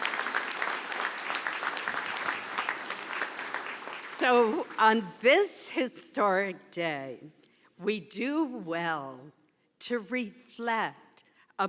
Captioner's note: applause